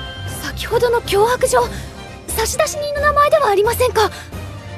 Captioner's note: none